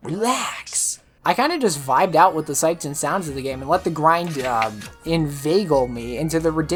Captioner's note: rustles notes